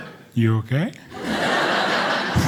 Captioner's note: audience laughing